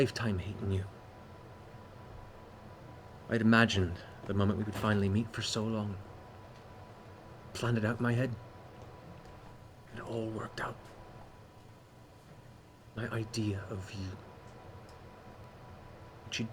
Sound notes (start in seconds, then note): none